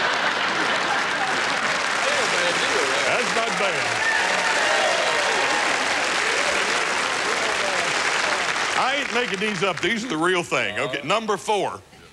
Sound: laughter and applause

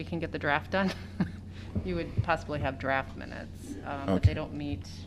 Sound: laughter

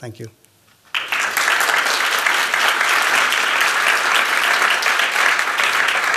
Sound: applause

